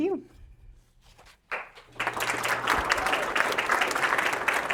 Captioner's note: audience applauding